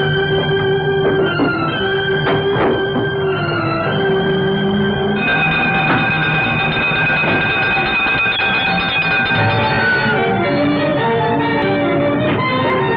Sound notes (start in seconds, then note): 5.1 fire brigade siren blares